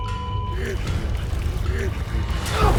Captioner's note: breathing heavily